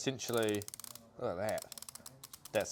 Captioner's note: mechanism rasps